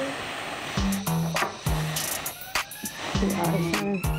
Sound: blowing onto food

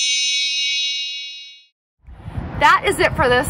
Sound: chimes

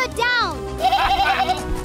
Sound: scared bleating; evil laughter

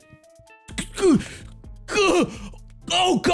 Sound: shocked noises

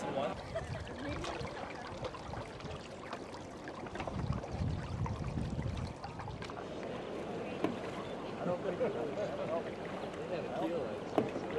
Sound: water stirring

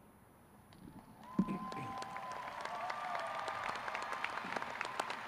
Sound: crowd cheering

